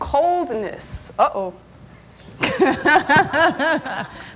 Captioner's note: laughs